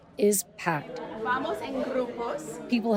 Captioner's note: doctor speaking in foreign language